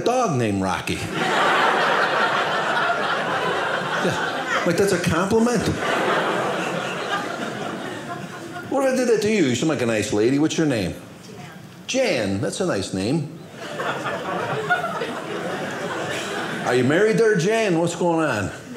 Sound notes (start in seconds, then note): 1.0 audience laughing; 5.5 audience laughing